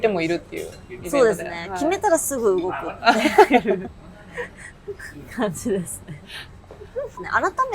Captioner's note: laughs